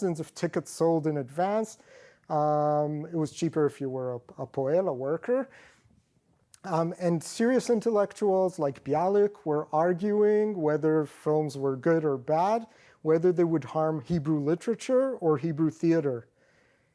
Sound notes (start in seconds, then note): 5.0 non-english